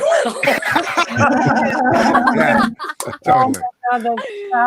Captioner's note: participants laughing